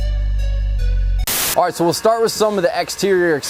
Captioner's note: static